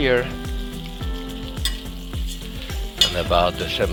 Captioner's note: sizzling